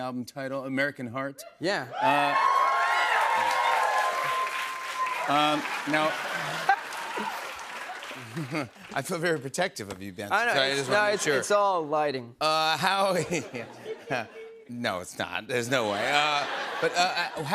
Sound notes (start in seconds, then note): 1.9 cheers and applause; 8.0 laughter; 13.1 laughter; 15.8 laughter